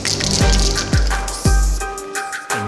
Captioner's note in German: Imitiert Zischen